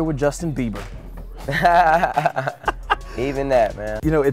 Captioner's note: laughs